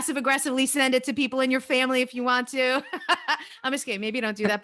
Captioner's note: laughs